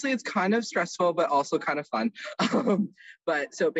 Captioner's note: giggles